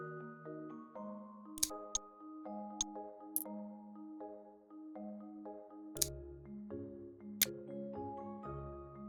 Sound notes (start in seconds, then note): 4.4 calm music; 6.0 click sound